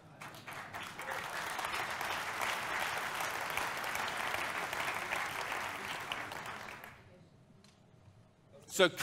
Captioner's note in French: applaudissements